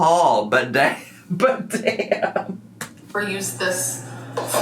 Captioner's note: laughs